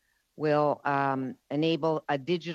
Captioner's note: speaking French